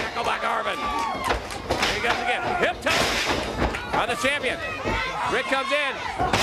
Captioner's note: crowd cheering